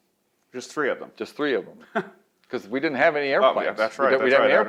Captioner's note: laughs